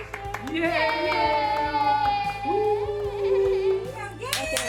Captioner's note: families cheering